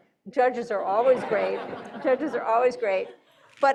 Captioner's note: audience laughing